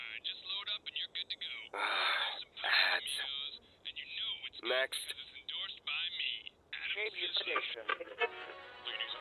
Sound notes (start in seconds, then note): 1.7 sigh